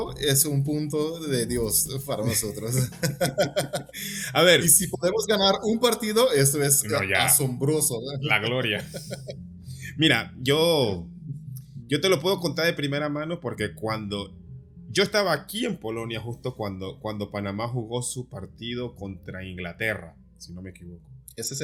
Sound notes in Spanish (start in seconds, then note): 2.3 risas